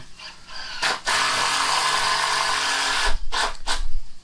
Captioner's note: power tool operating